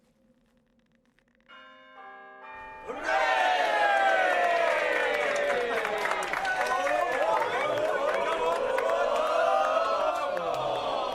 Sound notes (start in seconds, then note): 2.4 bells toll; 5.2 cheering